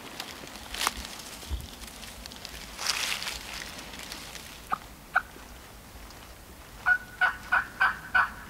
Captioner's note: moving through grass/leaves; calling